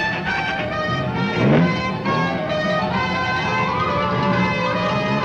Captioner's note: car engine revving; dramatic music